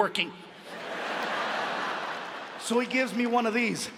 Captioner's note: audience laughs